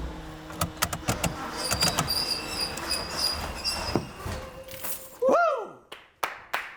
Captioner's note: metal squeaking; keys jingling; hands clapping